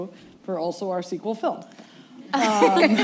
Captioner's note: laughter